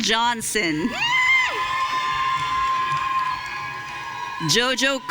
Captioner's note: audience cheering